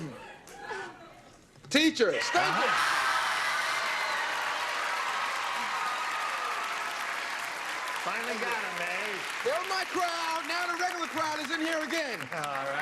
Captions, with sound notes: WHAT DO YOU GOT? TEACHERS. THANK YOU! [CHEERING AND CLAPPING] FINALLY GOT THEM, EH? THEY'RE MY CROWD. NOW THE REGULAR CROWD IS IN HERE AGAIN.